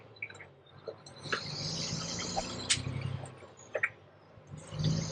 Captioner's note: engine rumbling